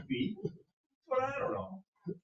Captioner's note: chuckles